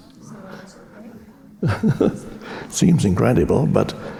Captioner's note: audience murmuring; Eckhart chuckling